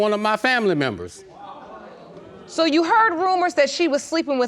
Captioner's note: audience gasps